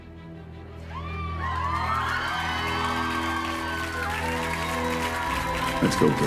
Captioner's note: applause